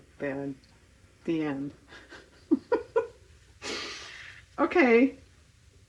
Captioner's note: laughs